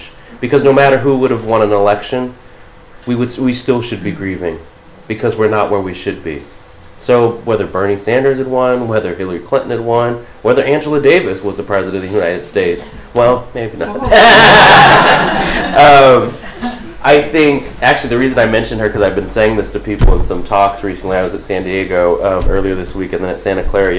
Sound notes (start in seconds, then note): 13.9 laughter